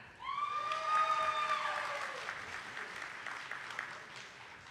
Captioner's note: audience applauding